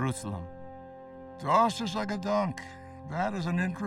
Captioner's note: speaking foreign language